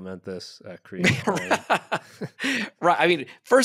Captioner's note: laughs